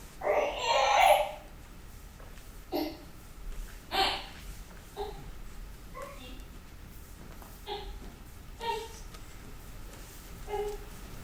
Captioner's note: baby cries